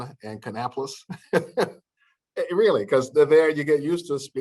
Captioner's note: laughter